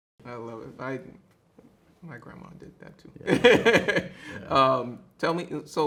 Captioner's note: laughs